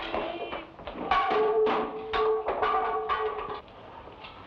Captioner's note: wood block rattles